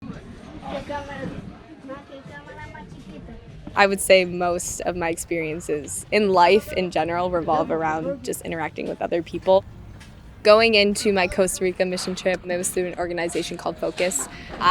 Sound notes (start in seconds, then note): 0.0 foreign language talk in the background